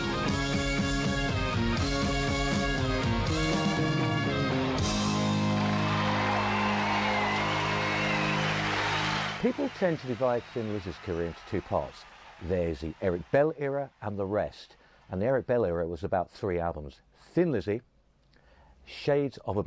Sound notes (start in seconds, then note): 4.6 applause